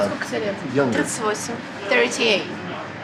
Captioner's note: speaks ukrainian